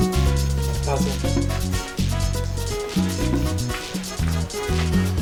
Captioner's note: ringtone